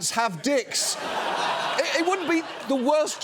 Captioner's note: audience laughs